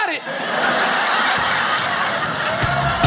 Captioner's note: audience laughs